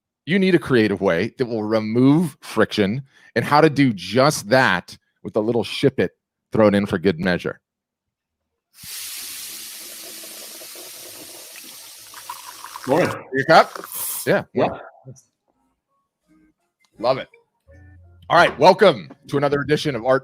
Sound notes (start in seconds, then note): 8.8 coffee machine steaming; 11.9 coffee dripping